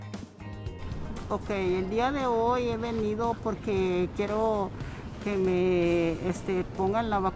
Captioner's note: Spanish